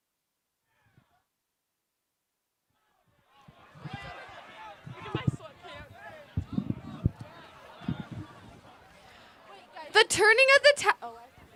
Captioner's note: applause